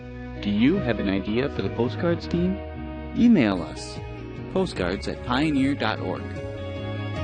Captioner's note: voiceover